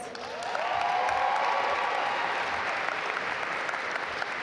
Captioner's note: audience applaud